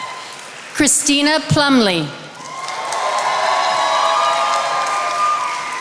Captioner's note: attendees applauding